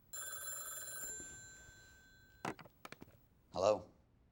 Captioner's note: phone rings